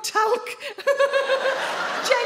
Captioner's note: she laughs